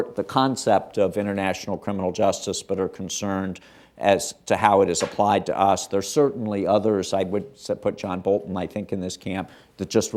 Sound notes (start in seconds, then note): none